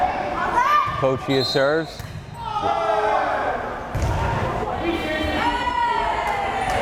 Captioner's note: whistle blares